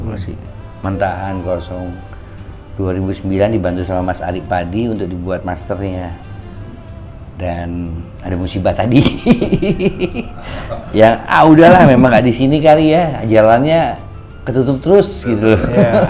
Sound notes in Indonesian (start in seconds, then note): 8.9 tertawa; 15.2 tertawa